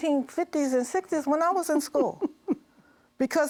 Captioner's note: laughs